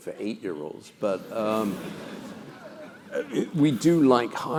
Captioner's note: laugh